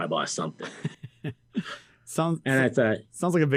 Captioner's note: interviewer laughs